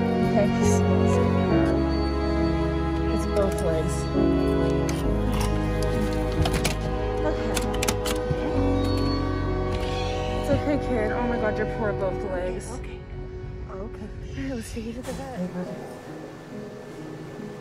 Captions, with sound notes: Okay, he smells so bad. You got it? It's both legs. Okay. [Train horn] It's okay kid. Oh my God, your poor both legs. Okay, okay. Okay. Now let's take you to the vet.